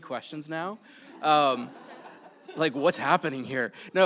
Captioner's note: audience laughs